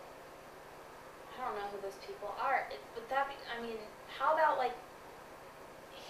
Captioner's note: stutters